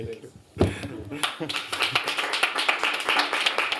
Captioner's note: applause